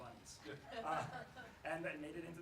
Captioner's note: laughs